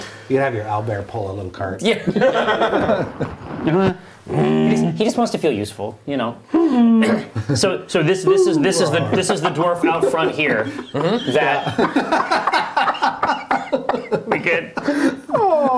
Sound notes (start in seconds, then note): 6.7 whining noises; 11.1 laughing